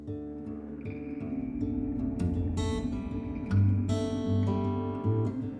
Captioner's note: droning whoosh